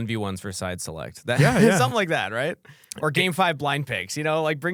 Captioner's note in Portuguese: risos